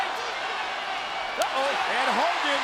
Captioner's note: crowd cheering